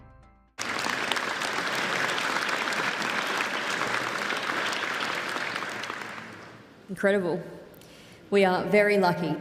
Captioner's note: applause